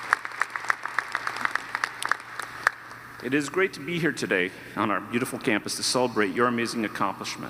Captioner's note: applause